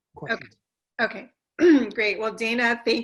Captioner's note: cough